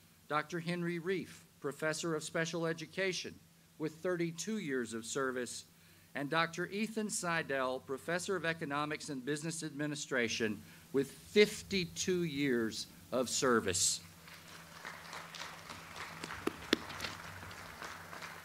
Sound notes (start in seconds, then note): 14.2 audience applauds